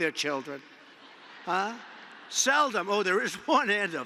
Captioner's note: laughter